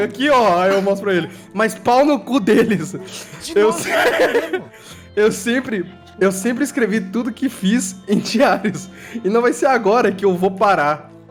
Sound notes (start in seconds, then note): 2.4 laughing